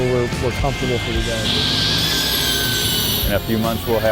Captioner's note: tool buzzing